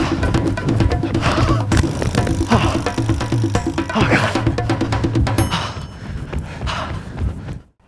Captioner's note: panting